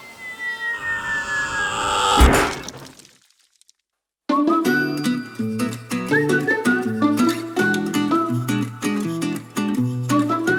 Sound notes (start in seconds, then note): 0.2 yelling; 0.8 thud; 5.9 cheerful music